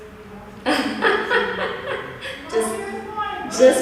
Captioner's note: chuckles